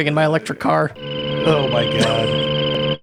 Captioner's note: electric car engine